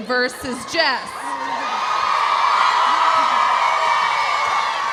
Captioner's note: audience cheering